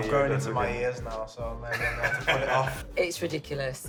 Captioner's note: both laugh